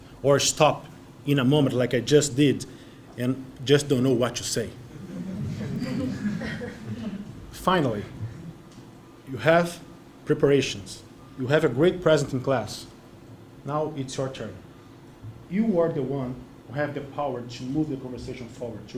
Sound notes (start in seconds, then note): 4.8 laugh